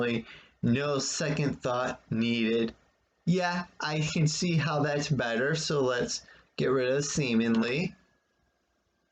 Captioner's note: click of trackpad